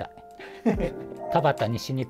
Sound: laughing

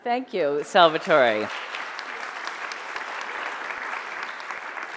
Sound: audience applauding

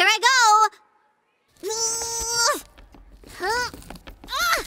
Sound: groaning

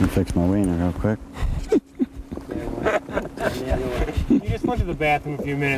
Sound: laughter

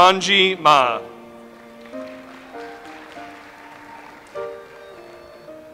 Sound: audience applauds

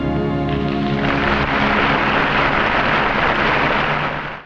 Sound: audience applauding

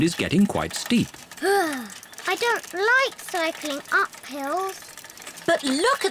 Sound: groans

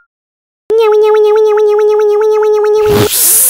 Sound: hydraulics sound

